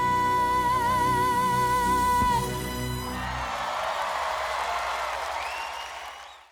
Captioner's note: cheers and applause